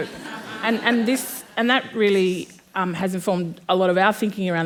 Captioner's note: laughter